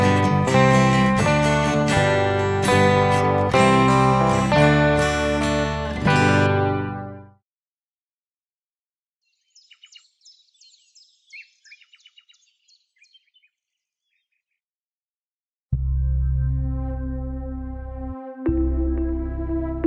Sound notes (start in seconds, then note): 9.2 birds chirping; 17.2 slow music